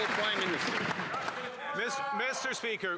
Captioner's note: applause